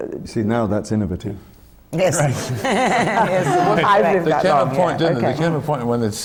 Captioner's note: laughter from the panel